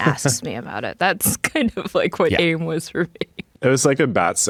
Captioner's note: laughs